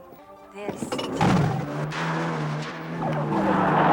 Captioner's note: engine rumbling